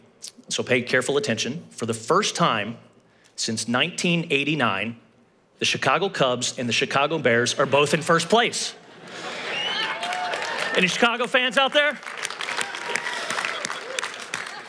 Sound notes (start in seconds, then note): 9.4 laugh; 9.6 applause